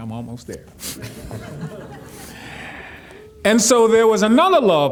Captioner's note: audience laughing